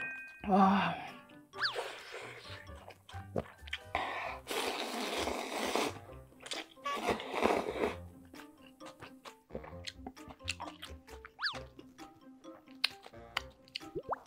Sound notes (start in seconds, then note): 6.4 inhale ramen